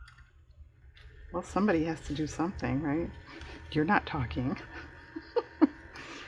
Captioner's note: laughs